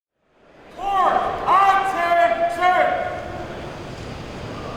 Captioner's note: shouted commands